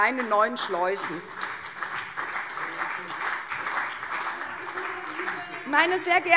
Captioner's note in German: Beifall CDU